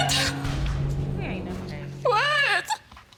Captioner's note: crying